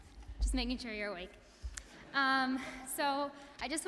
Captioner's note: audience laughing